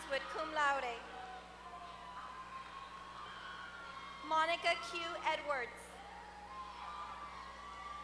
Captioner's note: applause